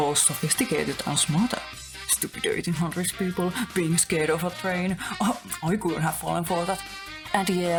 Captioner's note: in a mocking voice